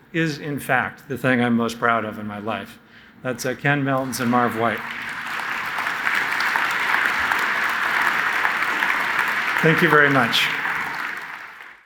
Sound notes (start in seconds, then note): 5.8 audience applauds